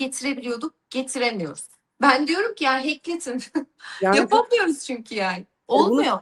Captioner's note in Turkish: kahkaha